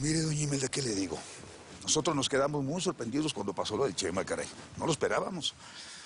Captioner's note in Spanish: none